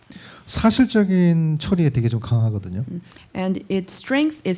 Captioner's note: speaking korean